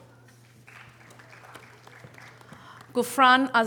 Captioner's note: audience applause